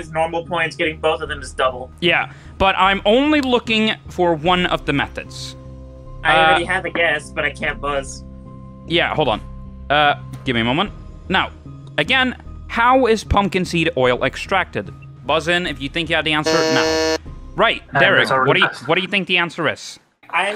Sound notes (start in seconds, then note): 16.4 buzzes